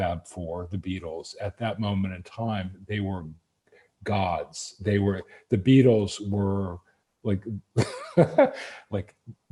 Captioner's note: laughs